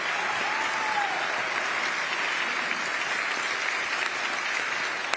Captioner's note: applause